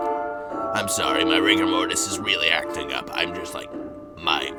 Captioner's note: more coughing